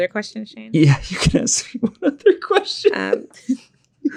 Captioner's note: laughs